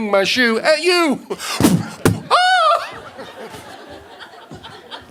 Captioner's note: blows into microphone